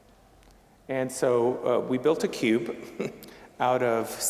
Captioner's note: chuckling